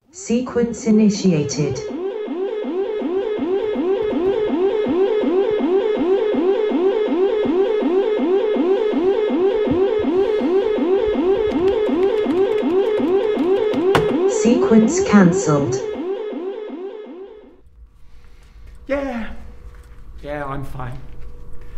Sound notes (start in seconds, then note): 3.2 alarm blares; 16.7 alarm stops